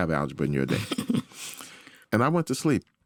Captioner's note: laughs